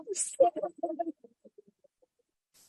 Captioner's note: laughter